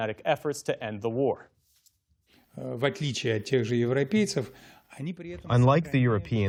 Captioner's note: through translator